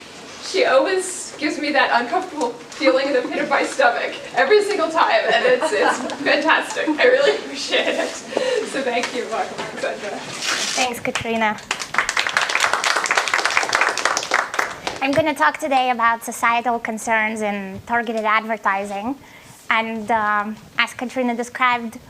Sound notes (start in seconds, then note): 11.6 applause